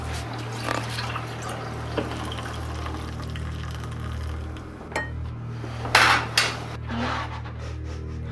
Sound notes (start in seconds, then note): 0.0 water trickling; 4.9 pot clinking